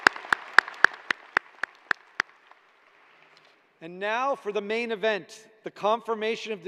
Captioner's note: cheers and applause